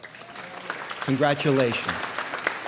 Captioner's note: applause